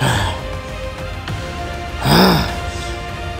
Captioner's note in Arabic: رجل يشخر